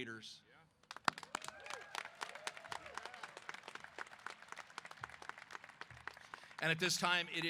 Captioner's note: applause & Cheers